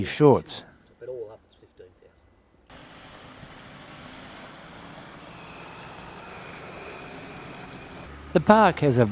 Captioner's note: vehicle sounds